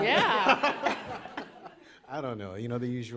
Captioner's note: laughter